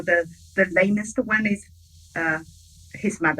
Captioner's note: speaking in foreign language